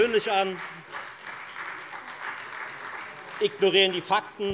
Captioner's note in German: Beifall Freie Demokraten